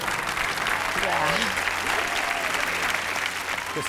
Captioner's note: audience cheers and applauds